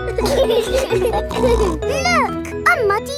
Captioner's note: laughing